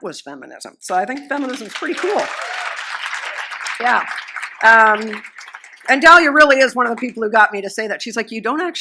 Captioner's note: applause